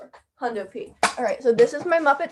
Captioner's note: muppets rustling